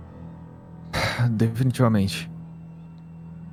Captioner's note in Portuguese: Suspiro